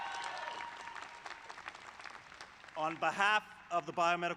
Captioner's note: cheers